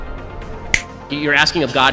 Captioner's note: snap